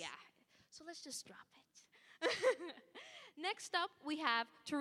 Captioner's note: laughing